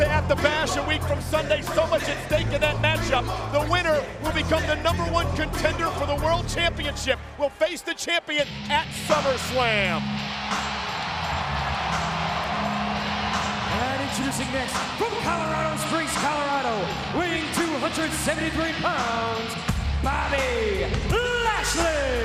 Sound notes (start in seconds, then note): 10.2 crowd cheering; 10.2 upbeat music